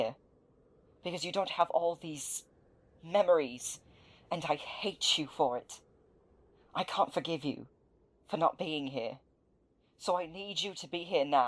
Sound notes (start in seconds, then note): none